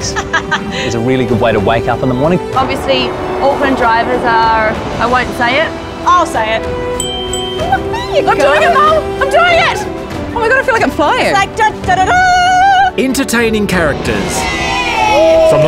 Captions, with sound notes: is a really good way to wake up in the morning. Obviously Auckland drivers are... I won't say it. I'll say it... (bell ding dings)! Look at me! I'm doing it mum, I'm doing it! Oh my god I feel like I'm flying. Its like da da da dah! Entertaining characters. Yay!